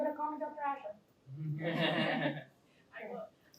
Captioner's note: laughter